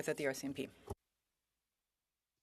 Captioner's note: speaking French